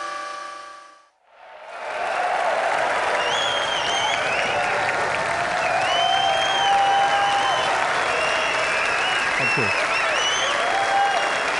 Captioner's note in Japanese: 拍手